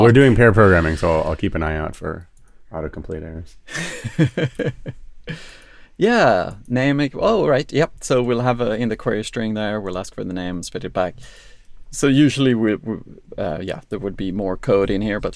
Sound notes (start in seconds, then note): 3.7 laughs